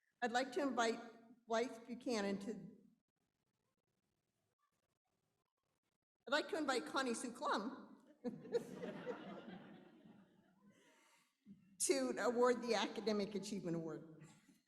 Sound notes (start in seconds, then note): 8.2 laughter